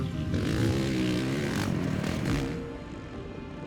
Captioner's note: engine roaring